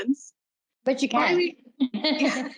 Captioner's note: laughter